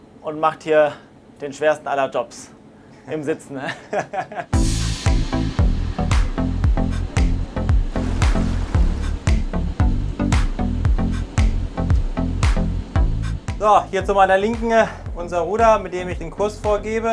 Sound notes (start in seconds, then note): 3.6 laughs; 4.5 dynamic Music